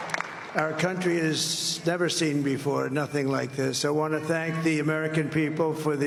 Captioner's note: cheers and applause